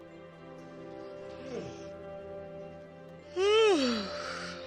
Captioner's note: both yawn